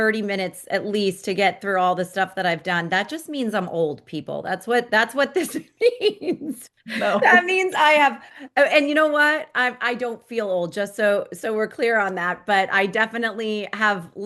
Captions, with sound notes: 30 minutes at least to get through all the stuff that I've done. That just means I'm old, people. That's what, that's what this means. (laughs) Oh. (laughs) That means I have... Oh, and you know what? I, I don't feel old. Just so, so we're clear on that, but I definitely have